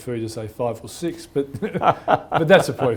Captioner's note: laughter